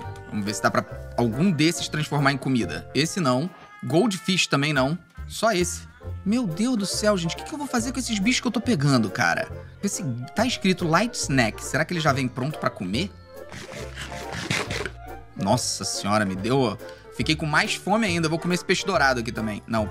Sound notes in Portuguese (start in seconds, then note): 13.5 som de mastigação